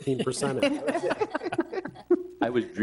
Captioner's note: board members laugh